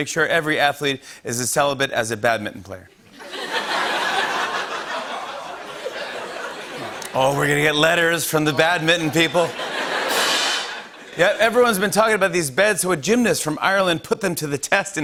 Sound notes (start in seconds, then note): 3.0 laughter; 8.4 laughter; 9.9 cymbals crash